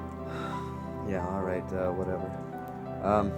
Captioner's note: sighs